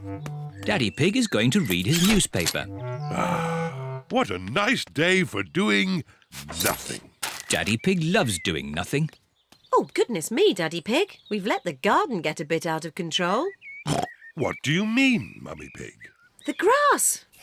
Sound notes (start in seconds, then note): 3.1 sighs; 13.9 snorts